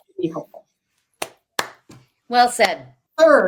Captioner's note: clapping